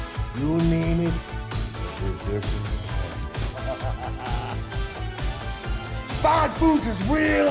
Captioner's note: laugh